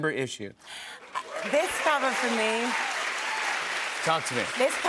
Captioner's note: cheers and applause